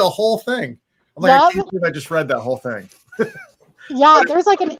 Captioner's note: laughs